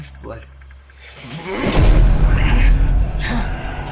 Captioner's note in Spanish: Isaac gruñe; Jonathan se ahoga